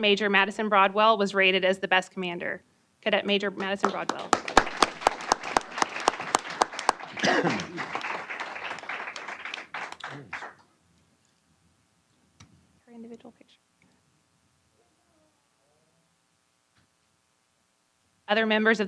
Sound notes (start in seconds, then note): 3.8 applause